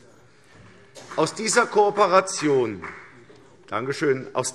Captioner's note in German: Vereinzelter Beifall BÜNDNIS 90/DIE GRÜNEN